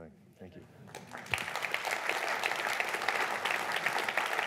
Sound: clapping

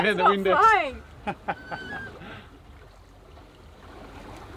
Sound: laughing

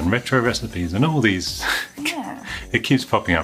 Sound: chuckles

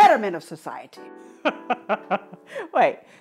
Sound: laugh

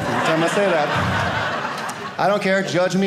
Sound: audience laughing

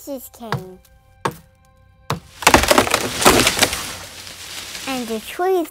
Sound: sound of chopping wood and a tree falling

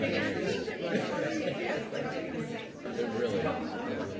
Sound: audience chatter

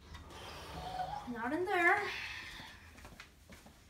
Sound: sighs

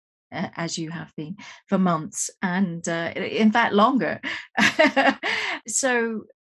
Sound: laughs

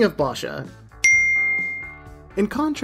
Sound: chimes

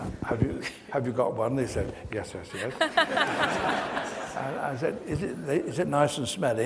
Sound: audience laughs

